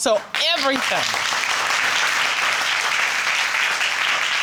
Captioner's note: audience sympathizing and applauding